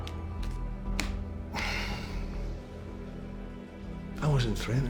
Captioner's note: tapping, shuffling sounds; sighs; scottish accent